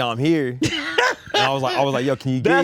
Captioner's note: Spike laughs